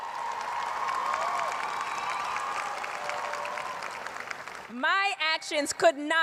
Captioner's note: cheers and applause